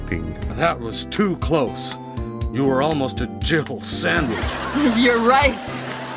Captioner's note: canned laughter